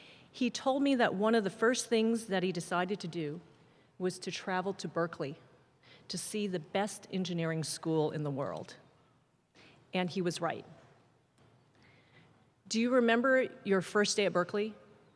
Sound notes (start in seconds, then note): none